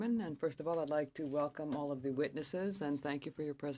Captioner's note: speaking French